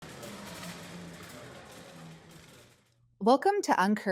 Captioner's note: shopping cart rolling